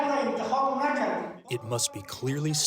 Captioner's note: through translator